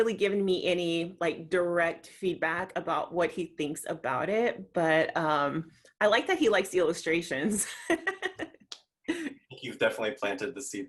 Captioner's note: laughs